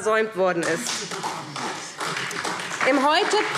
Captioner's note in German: Beifall SPD und DIE LINKE